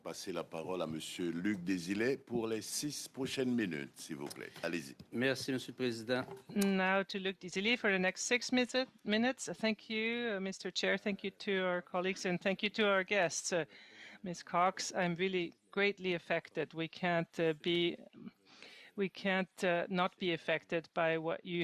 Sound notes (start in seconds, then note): 5.2 speaking French